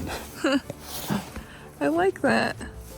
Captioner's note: chuckling